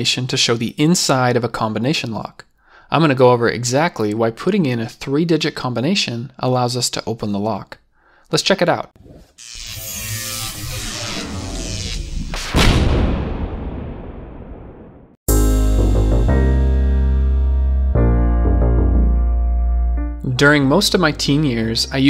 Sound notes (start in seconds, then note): 9.4 electricity crackling; 15.3 upbeat electronic music